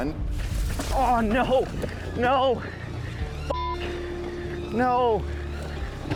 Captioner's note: beep